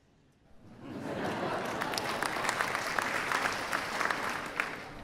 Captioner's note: laughter and clapping